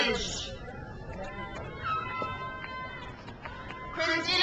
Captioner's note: crowd cheers